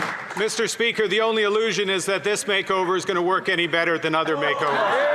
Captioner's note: some Applause